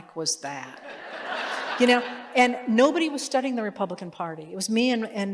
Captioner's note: laughter